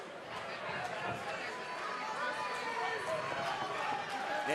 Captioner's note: audience cheering